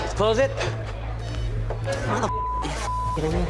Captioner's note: beep